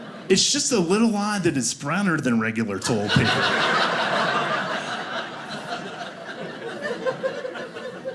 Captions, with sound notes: It's just a little odd that it's browner than regular toilet paper. (audience laughing)